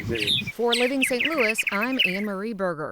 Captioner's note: birds chirping